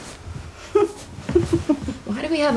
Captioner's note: chuckling